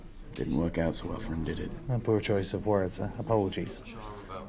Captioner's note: none